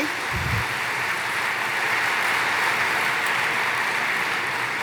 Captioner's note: applause